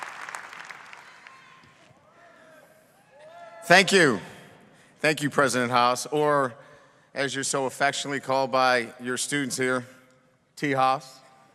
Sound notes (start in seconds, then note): 0.0 audience cheering